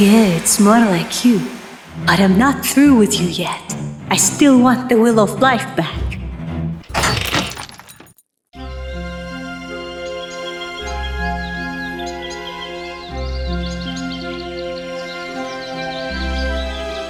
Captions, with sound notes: - Yeah, it's more like you. But I'm not through with you yet. I still want the Wheel of Life back. (door slams) (peaceful orchestral music)